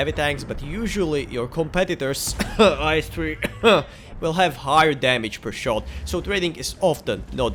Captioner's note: cough